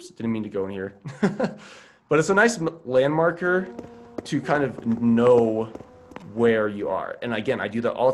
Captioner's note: laughs